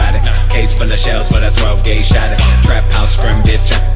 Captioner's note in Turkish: Pow